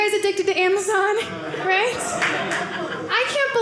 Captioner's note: audience laughing